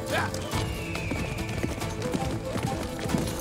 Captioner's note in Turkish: Kartal ötme sesi; At nalı sesi